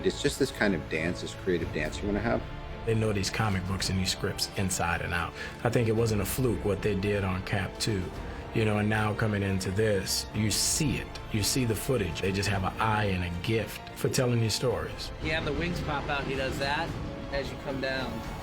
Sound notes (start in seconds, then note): none